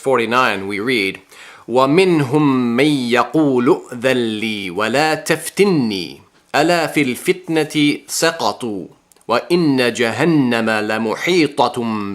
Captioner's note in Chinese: 念阿拉伯语